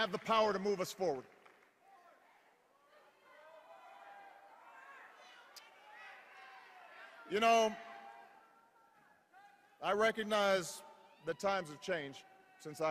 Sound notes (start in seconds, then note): 1.2 cheers, individual audience members shout emotionally